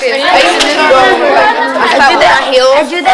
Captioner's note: chatter